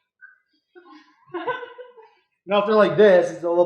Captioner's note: student laugh